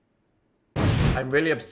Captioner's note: explosion